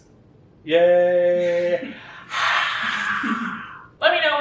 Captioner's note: imitates roaring crowd